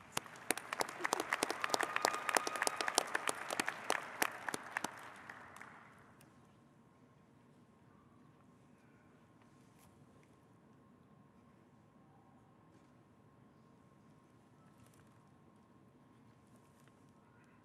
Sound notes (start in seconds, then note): 6.7 applause